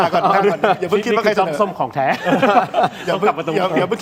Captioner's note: laughter